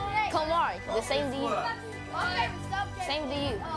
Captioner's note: kids jabbering